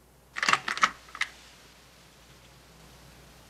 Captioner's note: door opening